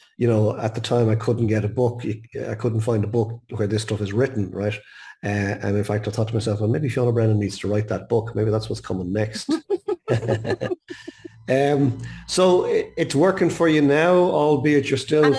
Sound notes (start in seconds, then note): 9.3 chuckling; 9.3 giggling